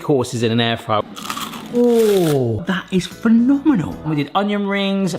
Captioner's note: crust crunching